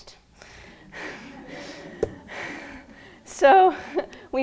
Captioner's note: laughing